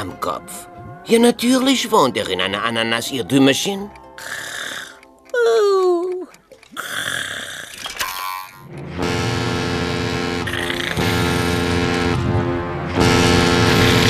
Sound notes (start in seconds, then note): 3.6 <i> snoring</i>; 8.8 <i> horn blows</i>